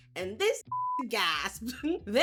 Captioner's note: beep